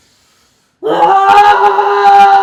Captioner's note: humming